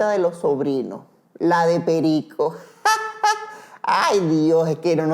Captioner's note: laughs